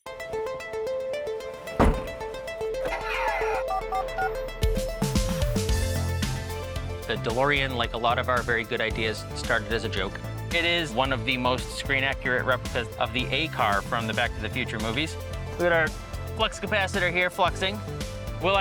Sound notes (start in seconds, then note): 0.1 synth pop music; 3.0 device whirring, panel beeps